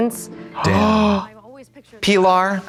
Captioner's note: Trixie gasps